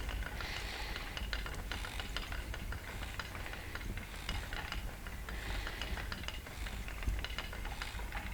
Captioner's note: breathing